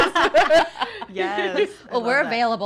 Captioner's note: all laughing